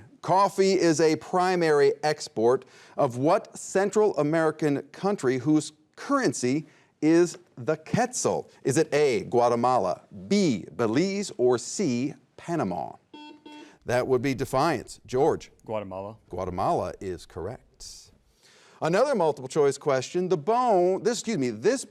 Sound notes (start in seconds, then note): 13.1 buzzer beeping